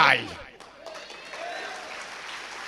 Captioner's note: clapping